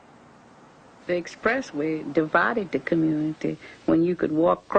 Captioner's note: female voice